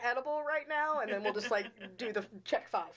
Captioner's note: chuckling